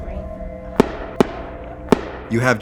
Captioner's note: gunshots